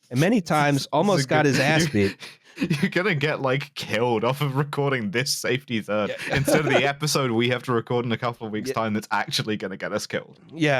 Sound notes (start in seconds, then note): 2.6 laughing; 6.0 laughs